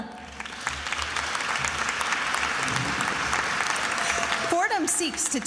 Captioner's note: attendees applauding